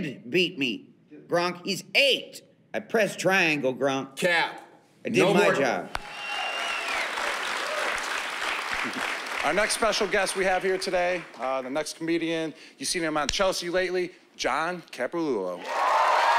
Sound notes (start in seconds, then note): 5.9 cheering and applause